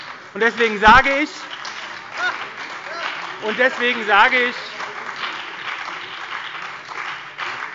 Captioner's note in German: Lebhafter Beifall bei der SPD und der FDP - Lachen des Ministers Tarek Al-Wazir